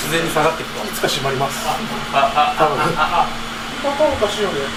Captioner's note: laughs